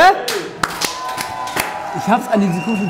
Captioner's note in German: Jubel